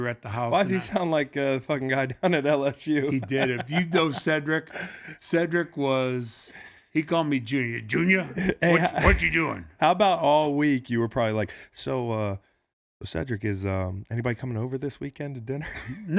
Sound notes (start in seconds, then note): 2.9 laughs